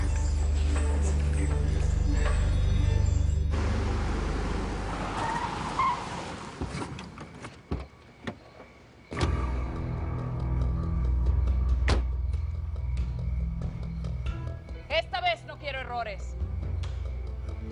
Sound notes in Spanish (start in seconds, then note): 3.4 Sonido del carro; 5.4 Frenazo